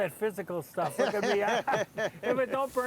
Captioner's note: laughing